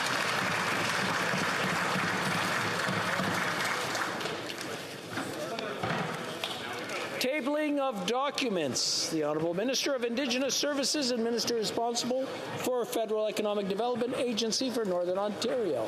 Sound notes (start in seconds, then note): 2.1 applause